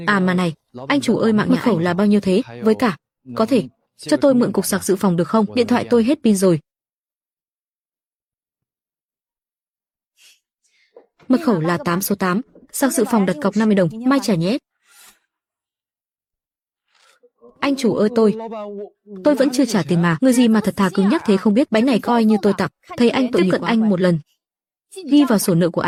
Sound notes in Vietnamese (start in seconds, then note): 10.4 khịt mũi